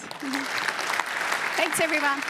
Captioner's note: applause